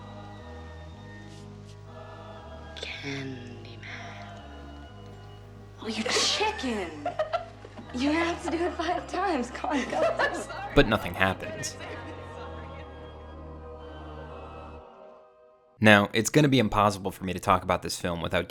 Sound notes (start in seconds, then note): 6.0 chuckles; 10.4 chuckles; 13.5 eerie music